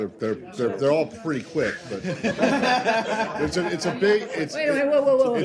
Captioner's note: laughter